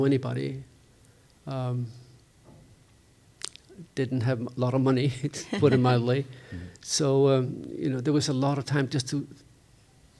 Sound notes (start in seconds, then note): 5.4 chuckles